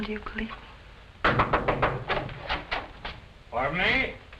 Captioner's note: knock on door